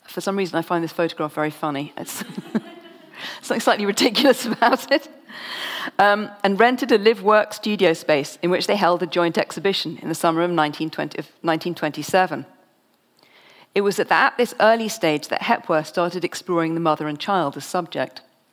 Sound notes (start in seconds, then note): 2.1 laughs; 2.2 audience laughs; 5.9 laughs